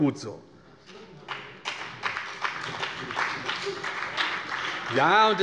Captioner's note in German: Beifall bei der CDU und dem BÜNDNIS 90/DIE GRÜNEN